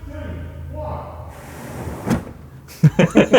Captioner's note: curtains dragging; laughing